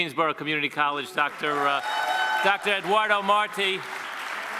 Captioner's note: people cheer